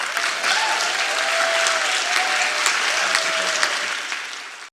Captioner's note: audience applauding and cheering